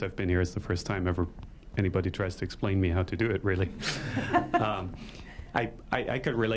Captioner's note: laughter